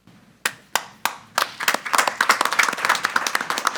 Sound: applause

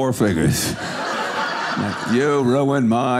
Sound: audience laughing

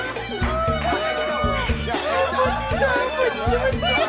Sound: crying of laughter

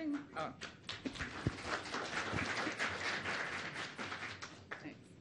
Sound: audience applauding

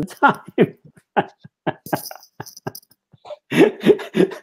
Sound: laughter

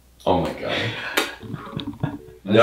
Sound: blows kiss

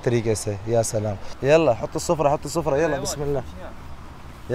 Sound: Arabic

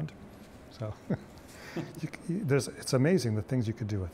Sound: both laughing

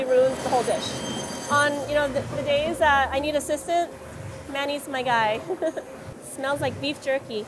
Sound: laughs

